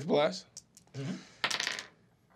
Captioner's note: dice clacking